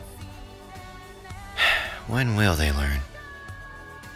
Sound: sigh

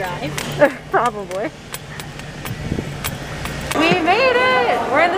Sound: laughs

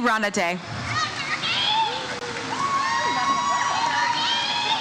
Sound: audience cheers

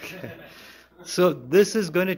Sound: laughter

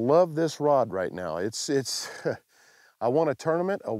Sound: chuckles

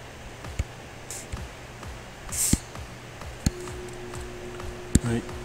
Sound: faint techno music; computer mouse tapping

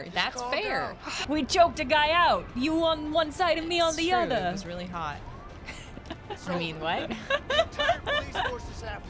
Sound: laughter

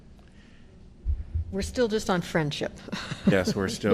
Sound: laughter

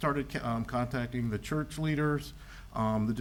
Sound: none

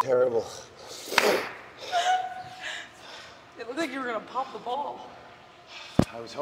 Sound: laugh

